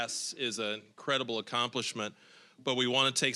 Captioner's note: none